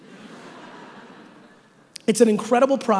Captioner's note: audience laughing